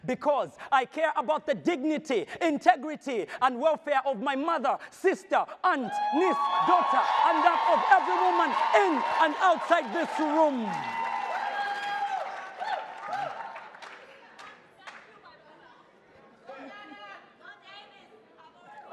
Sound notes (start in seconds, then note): 11.0 audience cheers; 12.4 overlapping chatter